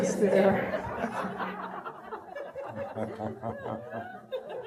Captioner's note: audience laughing